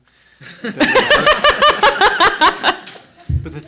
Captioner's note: laughing